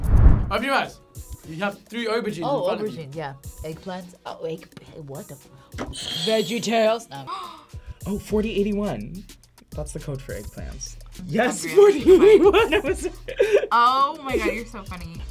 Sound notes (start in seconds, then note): 5.9 buzzer rings; 7.3 gasps; 11.6 laughs